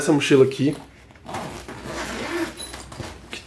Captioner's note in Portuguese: som de zíper abrindo